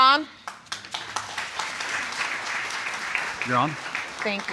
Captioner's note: audience applauds